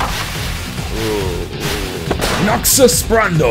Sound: groans

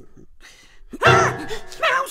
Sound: yells

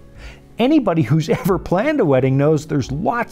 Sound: chuckles

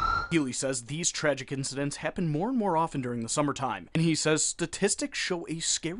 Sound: sirens

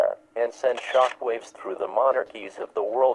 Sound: shutter click sound

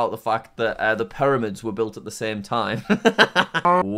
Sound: laughs

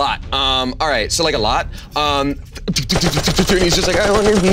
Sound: machine gun firing

